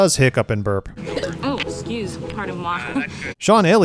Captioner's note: chuckes; hiccups and burps